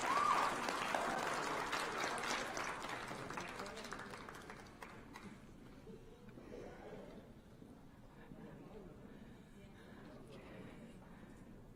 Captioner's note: applause